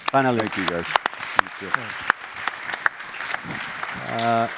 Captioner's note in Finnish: Applause